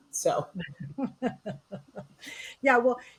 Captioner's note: laughing